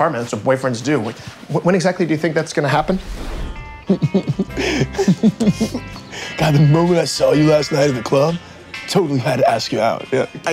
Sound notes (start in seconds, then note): 3.8 both chuckling